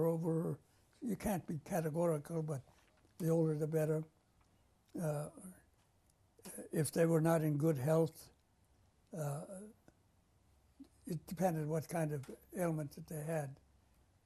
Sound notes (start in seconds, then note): 9.3 pauses for 3 seconds